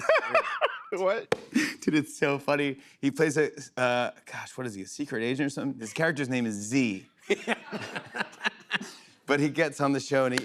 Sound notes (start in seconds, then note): 0.0 laughs; 7.2 laughter